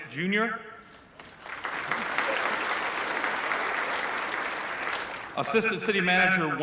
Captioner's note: applause